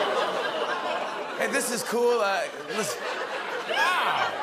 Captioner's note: laughter, scattered groans; laughter